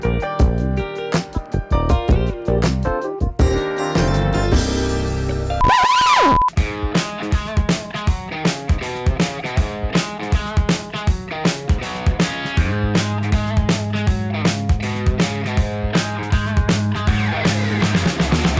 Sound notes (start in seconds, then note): 5.6 screeching record; 6.8 upbeat rock music